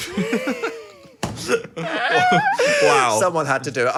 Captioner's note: both laughing